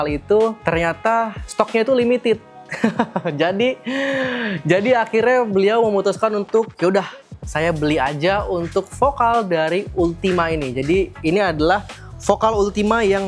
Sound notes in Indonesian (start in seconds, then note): 2.7 tertawa; 3.9 terkesiap